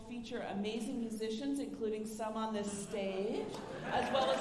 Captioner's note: alumni laughing